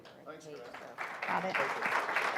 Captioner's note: applause